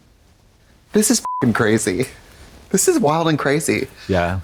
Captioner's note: beep